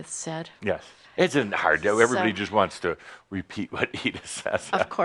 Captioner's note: chuckles